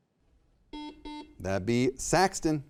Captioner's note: buzzer beeping